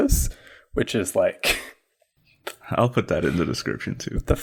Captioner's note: laughs